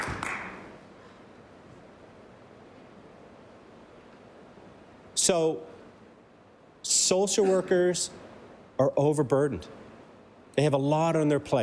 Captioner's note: applause